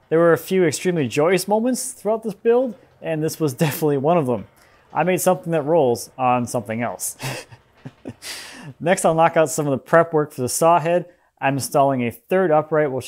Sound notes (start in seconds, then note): 7.1 laughing